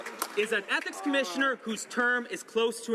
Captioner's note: some Applause